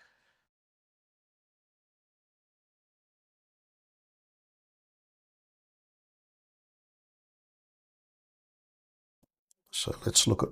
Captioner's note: silence